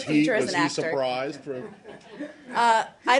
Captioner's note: laughter